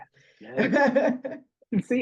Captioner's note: laughs